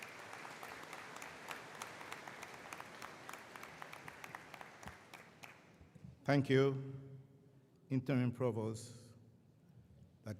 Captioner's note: applause